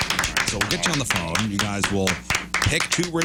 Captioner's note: clapping